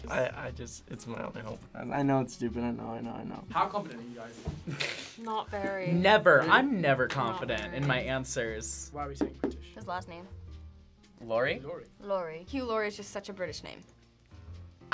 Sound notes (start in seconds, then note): 4.6 laughs